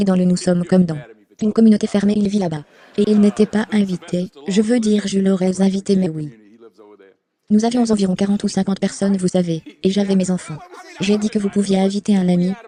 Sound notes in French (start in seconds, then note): 0.2 rire; 9.7 rires